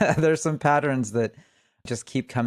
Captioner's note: laughs